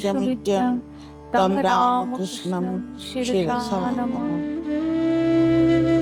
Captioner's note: chanting